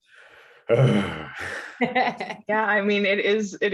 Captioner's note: giggling; sighs